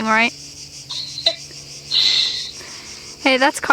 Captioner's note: Krissy laughing